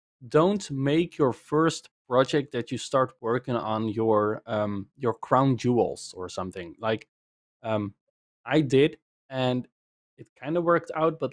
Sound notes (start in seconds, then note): none